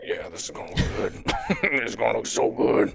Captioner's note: laughs